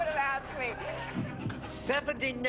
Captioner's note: audience laughing